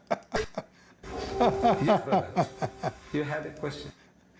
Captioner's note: Ketawa